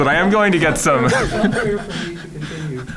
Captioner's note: laughs